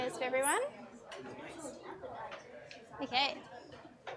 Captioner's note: crowd chattering